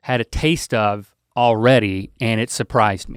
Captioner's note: none